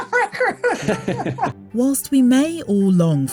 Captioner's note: all laughing